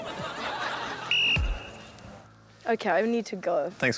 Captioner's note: blows whistle